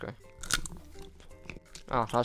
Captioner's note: chomp